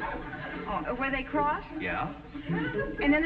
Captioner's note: audience chuckling